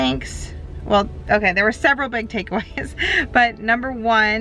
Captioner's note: chuckles